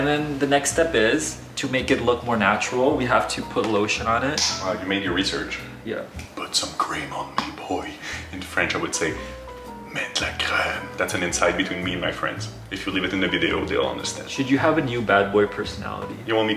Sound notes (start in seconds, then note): 9.7 French speaking